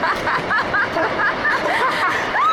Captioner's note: laughter